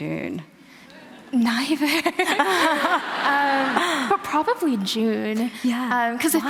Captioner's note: laughter